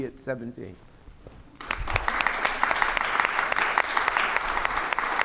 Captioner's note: applause